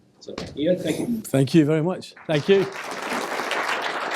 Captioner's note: applause